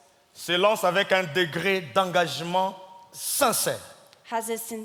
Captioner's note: speaking in French